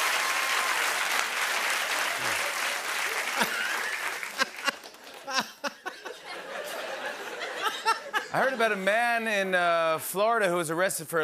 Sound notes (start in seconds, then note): 3.3 laughter